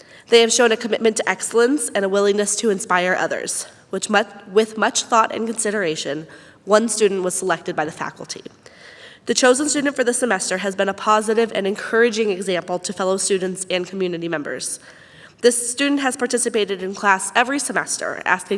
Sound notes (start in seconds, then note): none